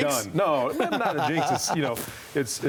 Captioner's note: laughter